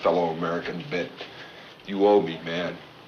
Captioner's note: laughs